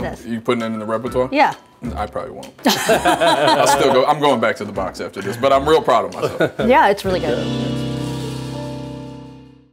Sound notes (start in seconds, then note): 2.6 laugh; 6.1 laughs; 6.4 jazz music